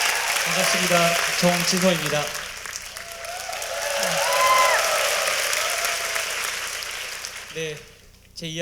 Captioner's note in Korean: 박수와 환호; 박수와 환호